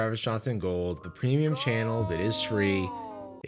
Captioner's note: disembodied voice